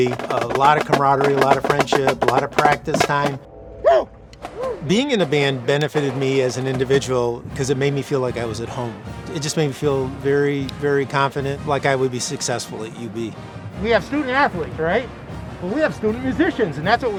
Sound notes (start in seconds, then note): 3.7 drummers whistling